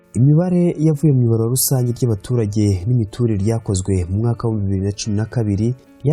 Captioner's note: speaking in Kinyarwanda